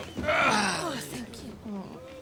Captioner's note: groans